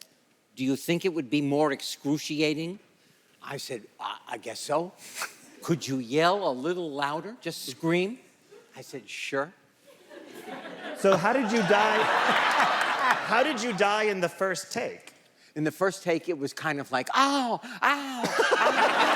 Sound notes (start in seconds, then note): 11.3 audience cheers